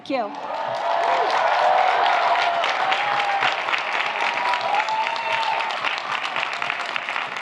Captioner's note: audience applauds; audience cheers